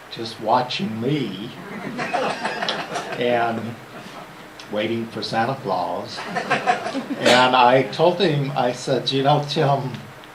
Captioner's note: laughter